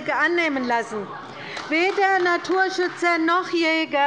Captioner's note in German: Beifall bei der LINKEN